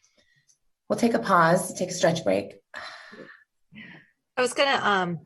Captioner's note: exhales